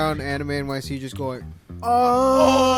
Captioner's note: groaning